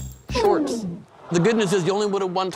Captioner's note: audience groans